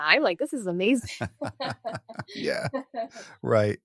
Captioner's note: laughs